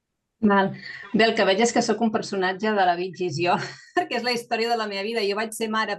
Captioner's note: speaking in Catalan